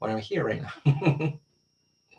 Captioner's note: laughs